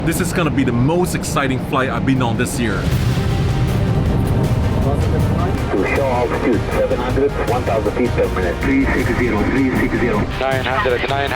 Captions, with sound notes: - This is going to be the most exciting flight I've been on this year. (dramatic music) (pilots speaking over radio)